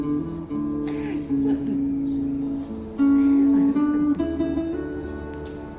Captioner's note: sobbing in the background